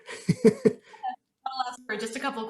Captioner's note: laughing